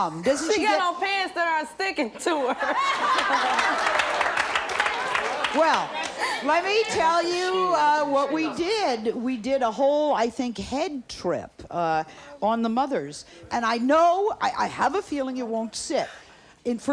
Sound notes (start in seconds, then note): 2.2 laughs; 2.8 audience applauds